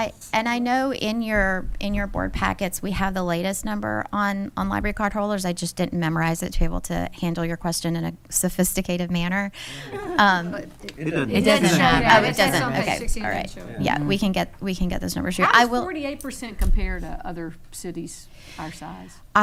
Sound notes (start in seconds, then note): 11.0 attendees laughing